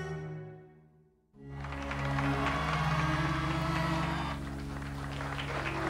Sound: crowd cheering; somber violin music

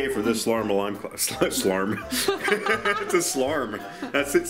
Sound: laughs

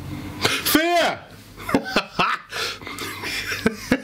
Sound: laughs

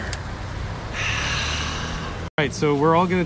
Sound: sigh

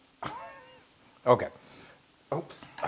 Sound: laugh

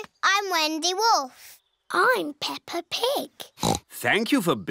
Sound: oinks

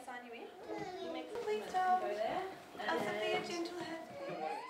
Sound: calmly

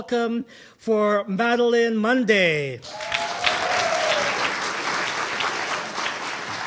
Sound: audience applauding

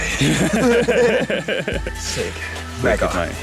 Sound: laughs happily

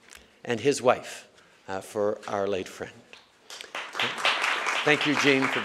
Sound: applause

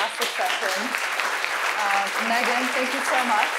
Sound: audience clapping

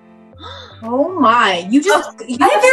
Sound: Kat gasps

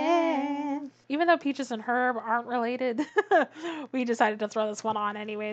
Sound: laughs

